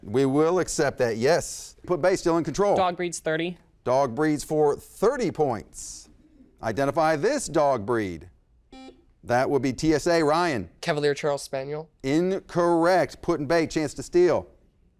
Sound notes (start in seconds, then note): 8.7 beep